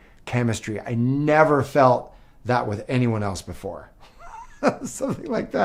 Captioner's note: laughs